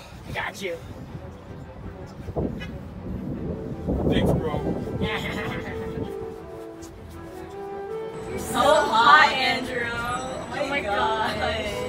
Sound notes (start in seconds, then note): 4.9 ryan laughs weirdly